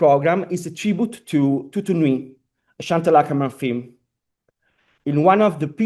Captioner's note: italian